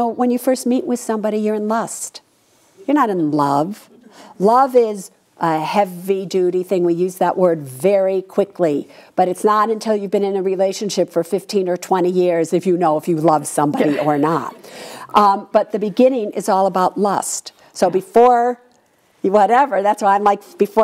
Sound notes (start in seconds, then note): 13.7 laughs